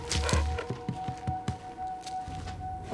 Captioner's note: panting